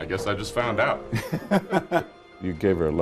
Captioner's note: laughing